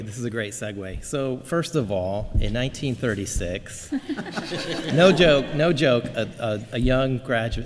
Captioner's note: laughter